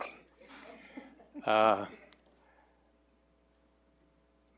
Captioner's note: attendees chuckling